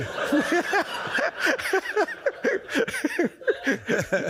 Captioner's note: audience laughs